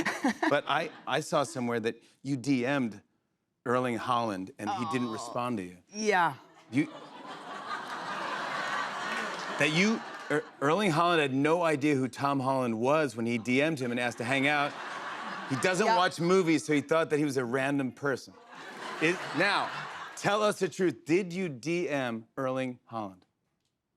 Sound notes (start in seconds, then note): 6.6 laughter